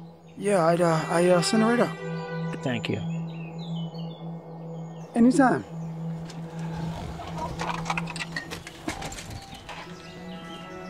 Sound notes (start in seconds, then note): 6.2 door creaks